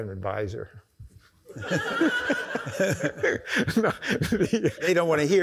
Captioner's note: audience laughs